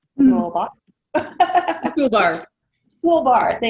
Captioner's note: laughing